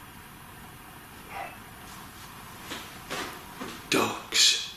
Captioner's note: faint whisper